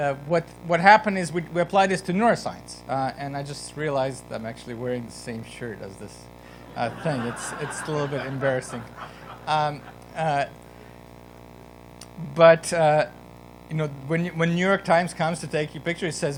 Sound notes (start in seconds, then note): 8.9 laughter